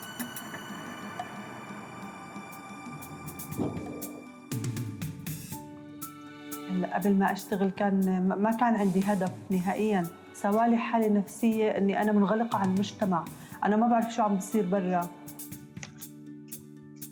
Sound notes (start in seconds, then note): 6.5 non-english speech